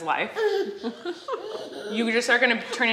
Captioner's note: laughing